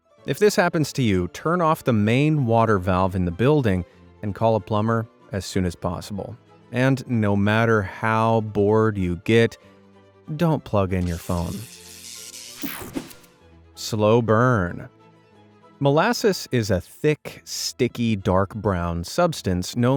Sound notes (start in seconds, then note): 11.0 electrical buzzing